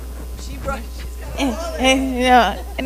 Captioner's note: audience laughs